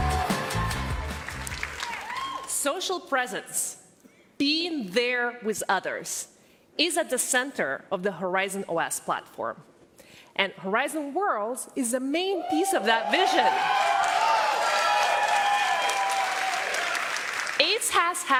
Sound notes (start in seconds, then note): 5.3 cheers and applause